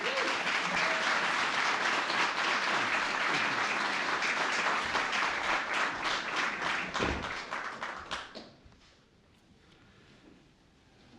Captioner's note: applause